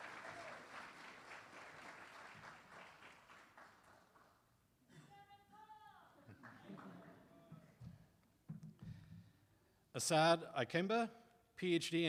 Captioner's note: applause